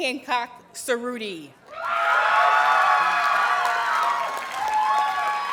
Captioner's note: audience cheers and applauds